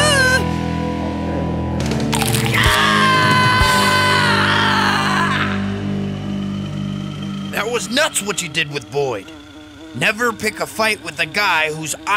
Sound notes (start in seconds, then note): 0.1 screaming; 2.1 chomping; 2.4 screaming